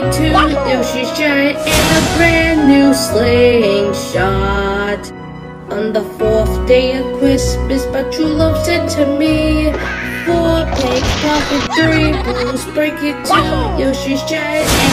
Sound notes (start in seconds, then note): 9.8 Red squawking; 10.7 The Blues laughing